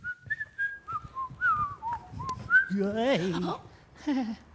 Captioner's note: whistling